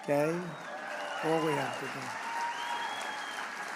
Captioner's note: applause